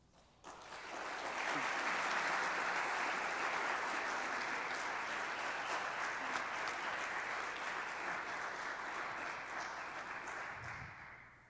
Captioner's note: applause